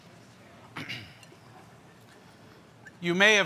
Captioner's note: clears throat